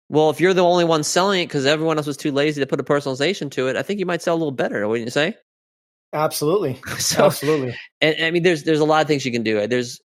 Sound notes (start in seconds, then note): 6.9 laughing